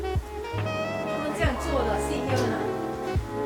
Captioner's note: in chinese